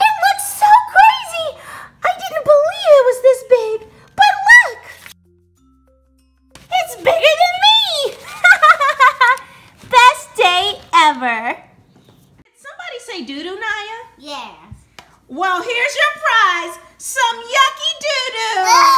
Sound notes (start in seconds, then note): 8.2 laughs; 12.8 voiceover; 15.7 voiceover